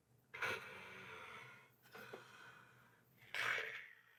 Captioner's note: Bhatt snoring